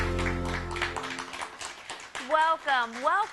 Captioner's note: applause